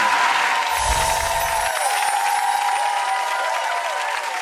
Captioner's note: audience cheers & applauds; twinkling